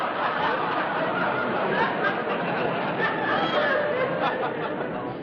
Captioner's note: laughter